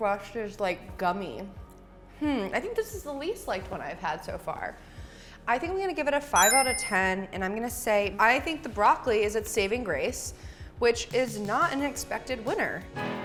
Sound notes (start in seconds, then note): 6.3 ding